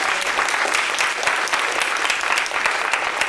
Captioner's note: applause